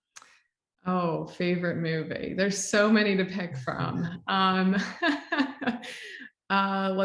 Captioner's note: laughs